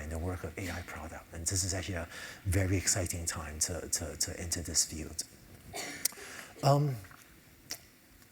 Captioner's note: cough